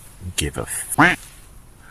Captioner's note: quack